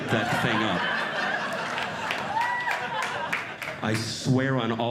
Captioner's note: audience Laughing